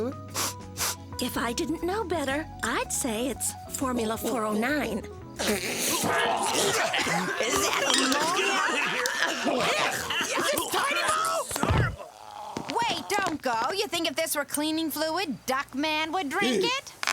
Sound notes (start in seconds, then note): 0.2 sniffing; 6.1 gagging